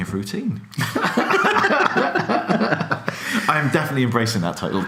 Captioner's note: laughing